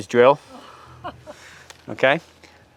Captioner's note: group laughs